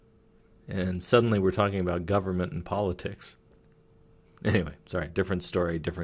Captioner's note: chuckling